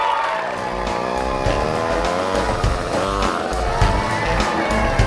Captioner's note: audience cheering and applauding; engine revving